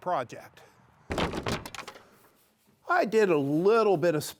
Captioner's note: wood clattering